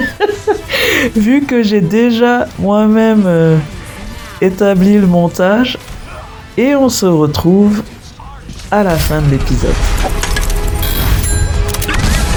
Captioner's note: laughs